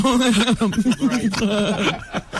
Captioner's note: laughing